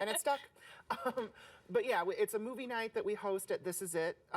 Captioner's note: laughing